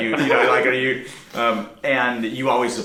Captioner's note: men laughing